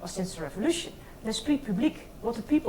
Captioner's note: speaks in foreign language